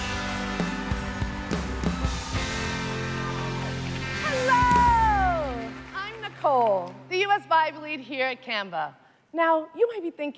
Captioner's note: applause